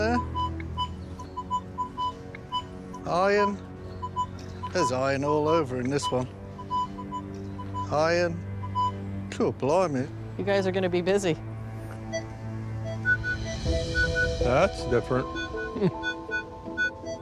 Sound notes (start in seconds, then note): 12.9 louder beeping; 15.7 chuckles